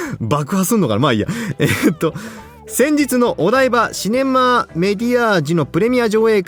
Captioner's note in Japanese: 笑い